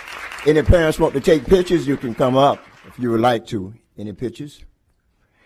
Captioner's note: applause